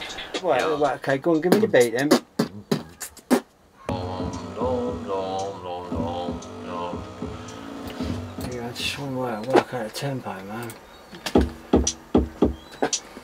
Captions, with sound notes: Right, ok go on, give me the beat then (BEATBOXING) (HARMONIZING) You know Im just trying to work out a tempo man.